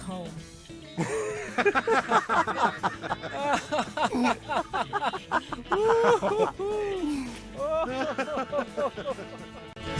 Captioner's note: all laugh